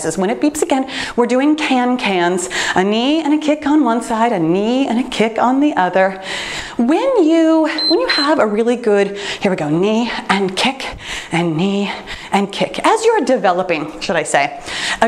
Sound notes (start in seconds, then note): 7.6 timer beeps